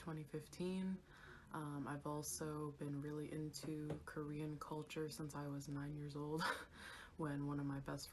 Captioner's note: giggles